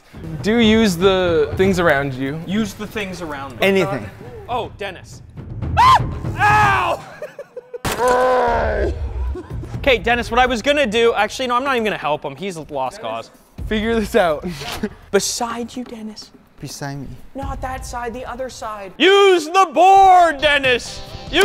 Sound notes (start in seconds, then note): 5.7 screams; 6.9 giggles; 7.4 screams